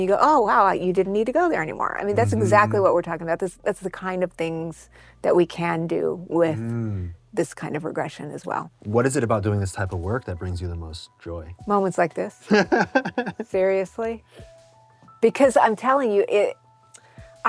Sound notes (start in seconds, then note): 12.5 laughs